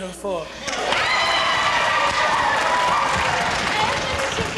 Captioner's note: cheering and clapping